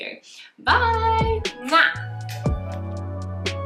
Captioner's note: muah